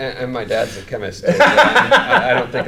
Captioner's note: laughing